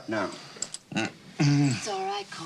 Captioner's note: groans